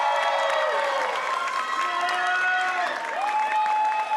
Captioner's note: applause